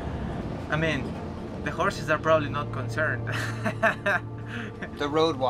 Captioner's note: laughs